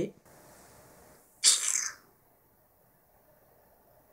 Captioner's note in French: tchiiiiiiiiiiiiiiiiiiiiip